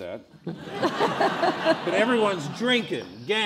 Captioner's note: laughing